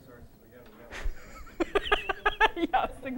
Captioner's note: laughter